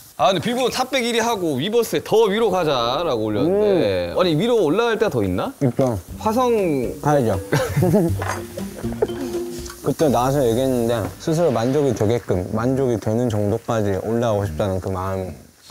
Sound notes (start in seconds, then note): 7.5 haha